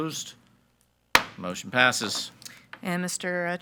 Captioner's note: gavel bangs